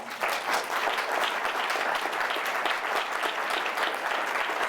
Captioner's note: audience applauding